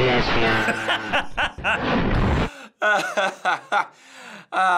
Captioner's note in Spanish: ríe